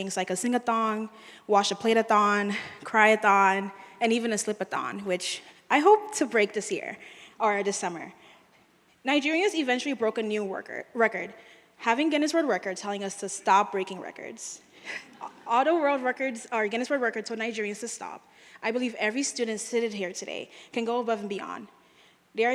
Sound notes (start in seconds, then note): 14.8 audience laughing